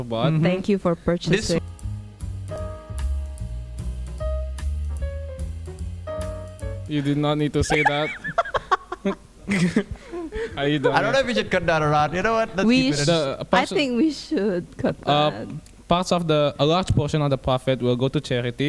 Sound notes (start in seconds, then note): 6.7 calm music; 9.2 laughing